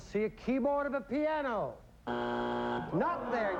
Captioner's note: buzzer